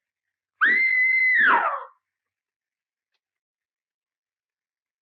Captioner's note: screams loudly